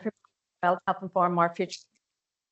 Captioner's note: audio distorts 10.51